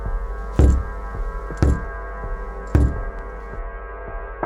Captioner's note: person knocking